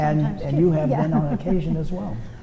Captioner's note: laughs